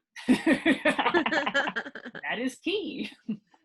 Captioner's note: laughing